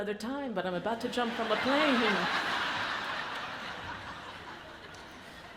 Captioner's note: audience laughs